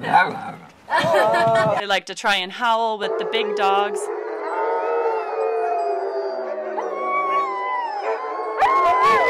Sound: dogs howling

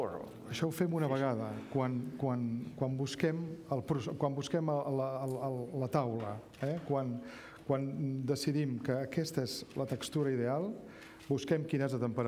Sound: speaking catalan

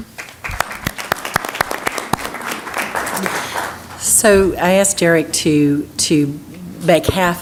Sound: applause

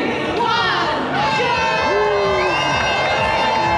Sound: horn blaring; crowd cheering

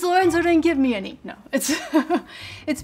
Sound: laughs

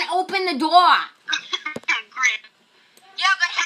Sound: chuckles

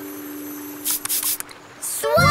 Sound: spraying sound

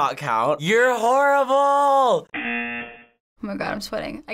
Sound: buzzer

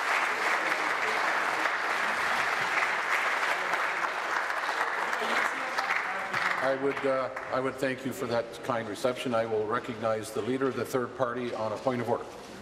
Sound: applause

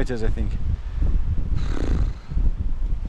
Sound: lip trill

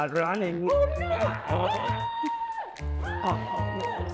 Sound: screams; Granny screams

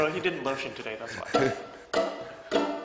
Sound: violin; laughing

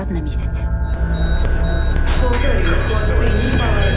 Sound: monitors beeping rapidly

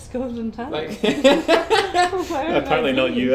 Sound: both laugh

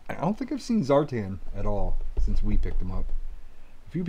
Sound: none

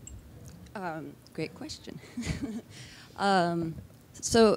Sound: laughs

